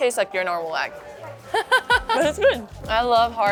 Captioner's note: laughs